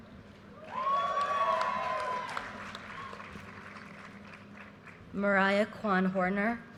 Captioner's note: audience cheers and applause